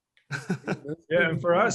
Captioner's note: chuckles